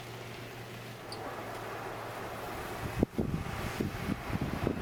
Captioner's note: wind blowing